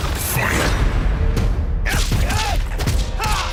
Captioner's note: grunts and loud impacts